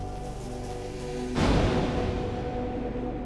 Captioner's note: explosion